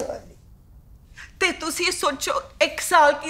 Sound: continues in Punjabi

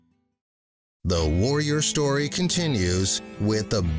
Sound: voiceover

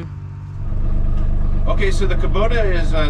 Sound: engine humming

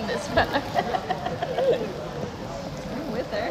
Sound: laughter

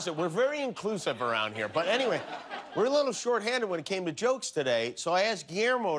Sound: laughter

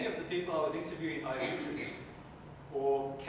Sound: coughing drowns out speaker

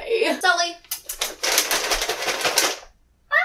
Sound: shakes treat bag

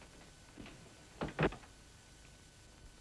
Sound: none

